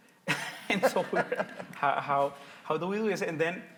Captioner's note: both laugh